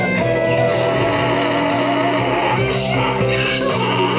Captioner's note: upbeat music; donkey braying